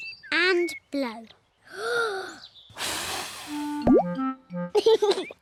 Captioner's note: takes big breath and blows; laughs